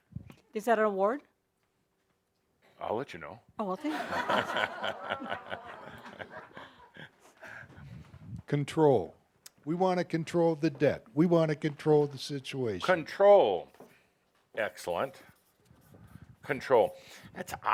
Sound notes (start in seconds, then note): 3.8 laughter